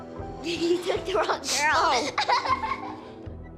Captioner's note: laughing